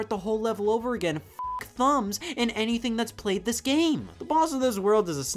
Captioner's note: beeps